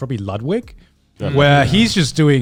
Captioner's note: affirmative murmuring